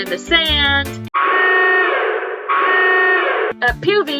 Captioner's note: siren noises